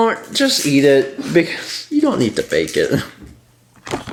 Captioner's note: chuckles